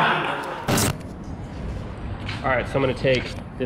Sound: laughter in the background; static

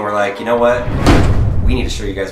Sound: intense thud

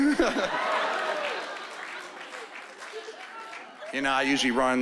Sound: chuckling

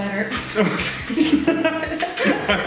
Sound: laughs

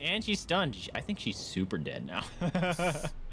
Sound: laughs

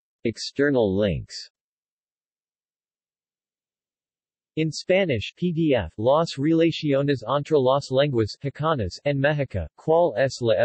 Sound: in Spanish

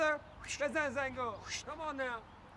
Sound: foreign language

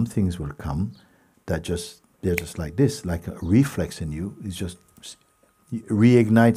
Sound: clicks fingers

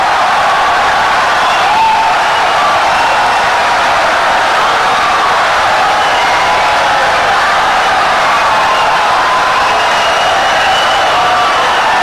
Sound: wild applause and cheering for 17 seconds

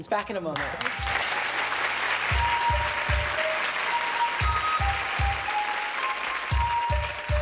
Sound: applause

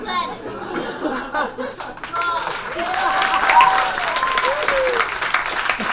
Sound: audience laughs and applauds

